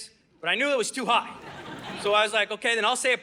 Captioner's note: audience laughing